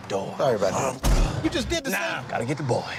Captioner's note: door slams